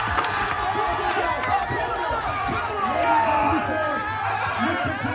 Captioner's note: crowd cheers